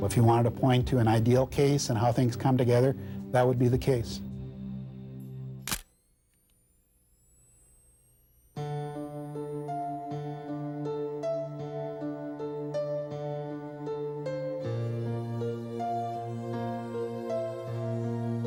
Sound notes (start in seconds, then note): 5.6 camera shutter click; 8.9 dramatic music